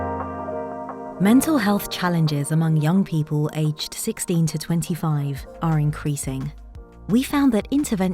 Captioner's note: automated Narration